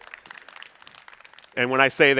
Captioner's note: audience applauding